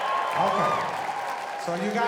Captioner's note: audience cheering